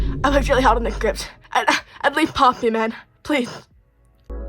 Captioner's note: spluttering